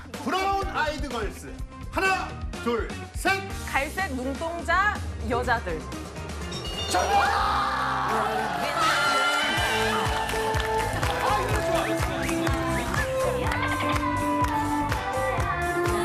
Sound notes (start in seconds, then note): 8.9 screaming with joy